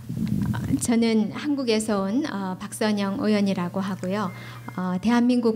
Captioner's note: speaking foreign language